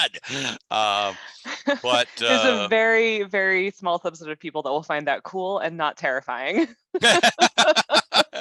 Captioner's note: laugh